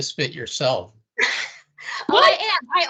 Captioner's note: laughing